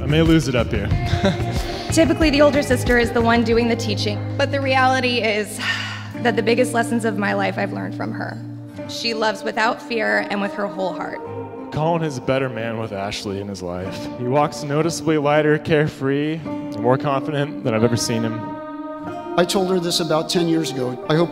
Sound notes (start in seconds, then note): 1.0 laugh; 5.6 sigh